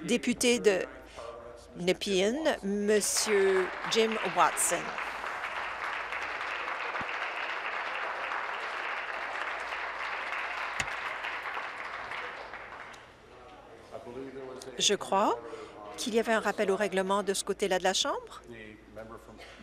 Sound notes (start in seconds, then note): 6.7 applause